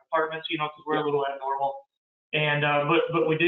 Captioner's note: murmurs